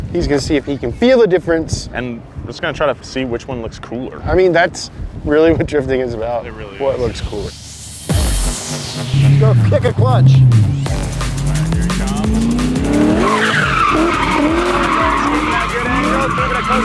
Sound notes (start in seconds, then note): 8.3 electro music; 9.5 car engine revving; 13.6 car engine revving; 13.6 tires screeching